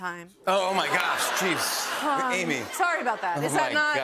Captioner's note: laughter